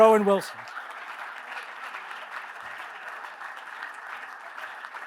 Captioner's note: audience applauds